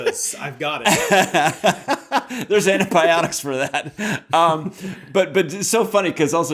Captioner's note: laughs